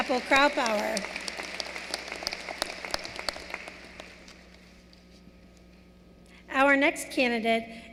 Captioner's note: applause